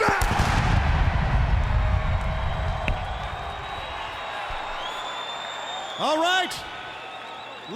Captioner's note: applause